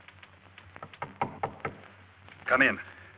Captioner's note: knocking on door